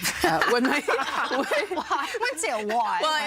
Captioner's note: everyone laughing